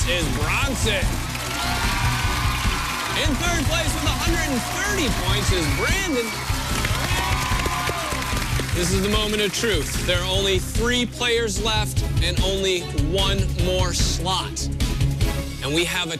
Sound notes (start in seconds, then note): 2.1 cheers and applause; 7.1 cheers and applause